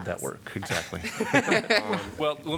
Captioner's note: laughter